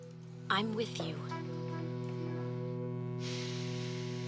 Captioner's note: breathes deeply